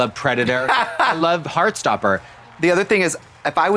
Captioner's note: Trixie guffaws